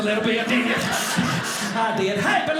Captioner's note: audience laughing